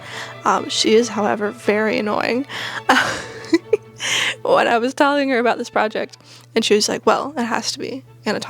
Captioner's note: laughing